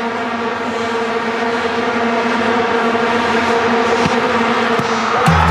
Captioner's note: vuvuzelas buzzing loudly